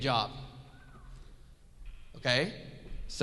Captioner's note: audience whistles